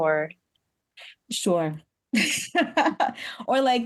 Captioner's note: laughs